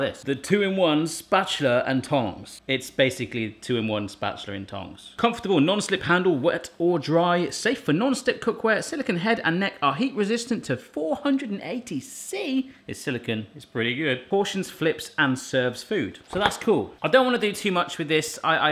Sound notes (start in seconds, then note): none